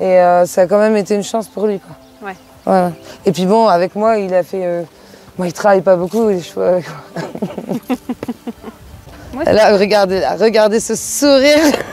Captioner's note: laughs